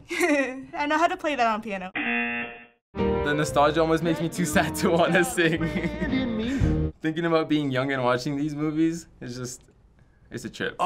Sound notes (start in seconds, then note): 0.0 giggling; 1.9 buzzer